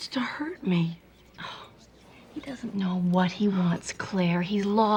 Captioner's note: scoffs